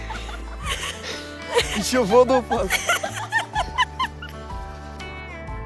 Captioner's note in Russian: смех